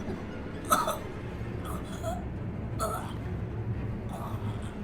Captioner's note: intruder grunting